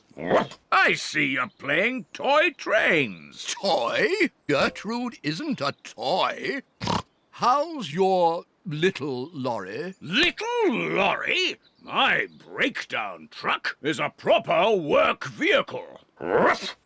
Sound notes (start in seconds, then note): 6.8 snorts